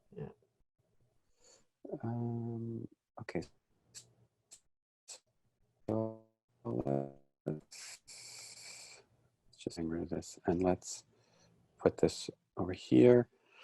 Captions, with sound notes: - Yeah. - Okay. (video interference) It's just getting rid of this. And let's put this over here.